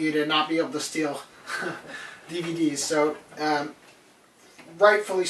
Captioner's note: laughs